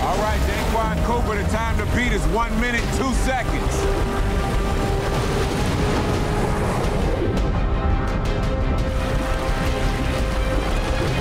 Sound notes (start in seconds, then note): 4.4 dramatic music; 4.4 water rushing